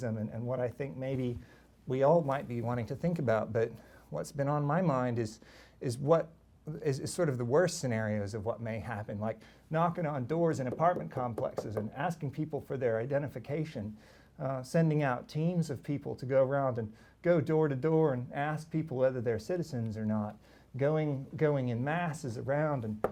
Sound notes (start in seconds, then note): 10.7 knocking